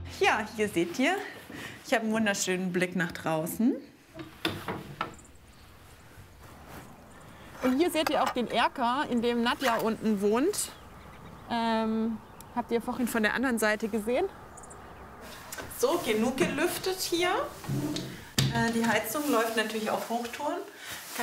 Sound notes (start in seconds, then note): 6.3 birds chirping